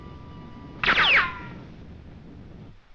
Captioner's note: gunshot